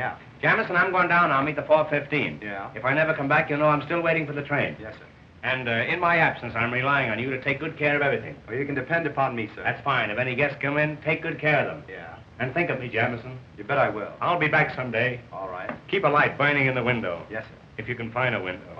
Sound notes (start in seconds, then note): none